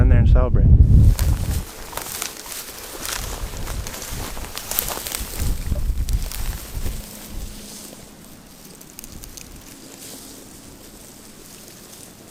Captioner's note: walking noises